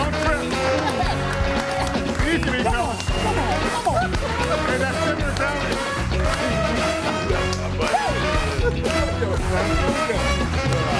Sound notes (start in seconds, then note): 0.9 audience applauds; 2.7 laughs; 3.1 upbeat music